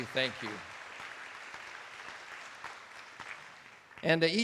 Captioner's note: attendees applauding